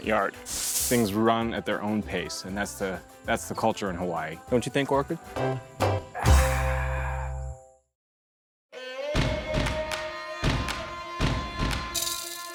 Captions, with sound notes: Things run at their own pace, and that's the culture in Hawaii. Don't you think, Orchid? [sighs] [percussive music]